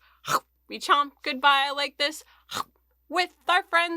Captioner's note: chomping noise